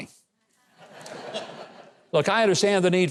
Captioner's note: audience laughing